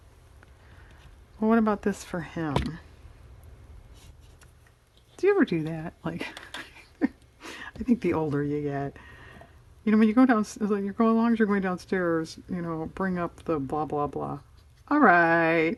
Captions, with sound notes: well what about this for him? do you ever do that? (laughs) I think the older you get-- as long as you're going downstairs, you know bring up the blah, blah, blah, all right